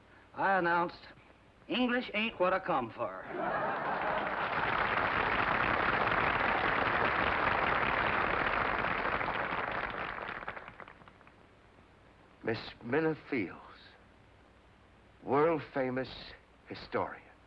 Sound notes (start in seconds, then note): 3.2 laughter, applause